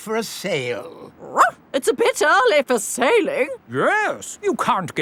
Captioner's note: barks